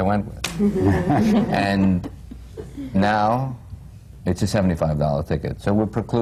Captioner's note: laughter